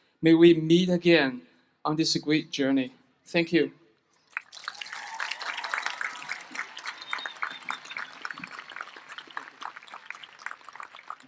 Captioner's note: applause